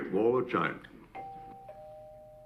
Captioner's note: doorbell